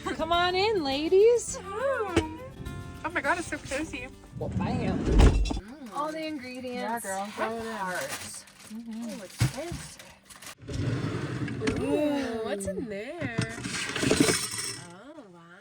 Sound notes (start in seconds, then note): 1.6 laughs; 4.3 door closing; 10.0 door opening; 13.3 plates clinking